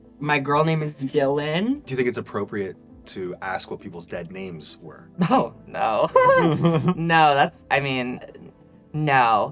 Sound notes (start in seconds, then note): 6.0 laughs